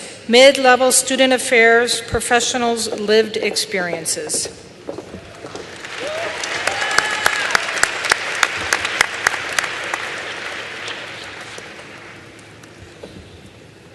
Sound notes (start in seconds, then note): 3.8 applause